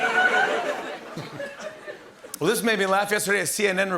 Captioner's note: laughter